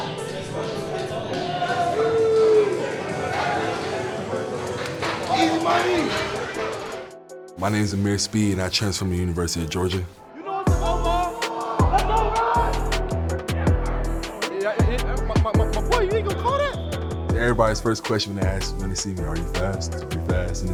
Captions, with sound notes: (upbeat music) - Easy money. - My name's Ameer Speed and I transferred from the University of Georgia. (group chattering) (upbeat music) - My boy. You ain't gonna call that? Everybody's first question they ask, when they see me, "Are you fast? Are you fast?"